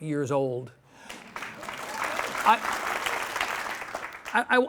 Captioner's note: audience clapping